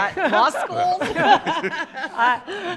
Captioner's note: panelists laughing